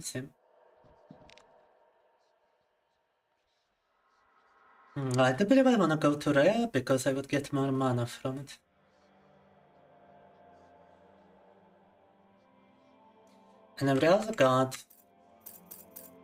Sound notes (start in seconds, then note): 10.3 speaking Russian